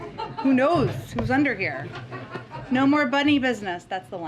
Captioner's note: laughter